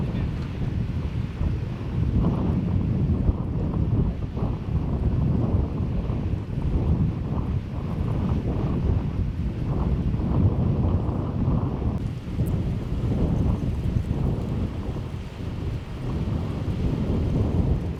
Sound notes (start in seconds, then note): none